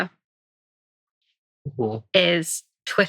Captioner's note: laughing